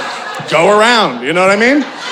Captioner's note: audience laughing